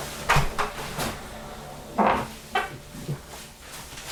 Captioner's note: door opens